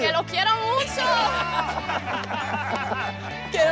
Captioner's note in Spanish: Risas